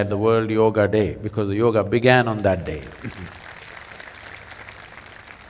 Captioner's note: applause